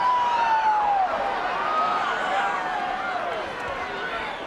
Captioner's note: crowd chattering